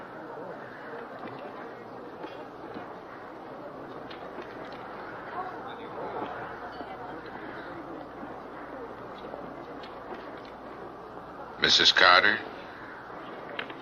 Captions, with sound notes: (people laughing) (footsteps approaching) - Misses Carter?